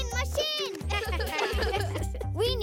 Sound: laughing

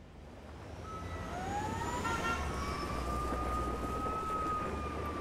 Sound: siren wailing in distance

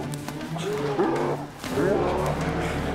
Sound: howling

